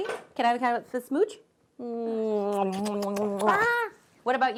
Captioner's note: smooching loudly